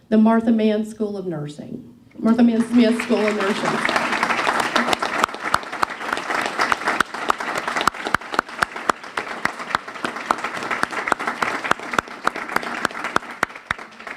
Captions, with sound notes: the Martha Mann School of Nursing. Martha Mann Smith School of Nursing. (clapping)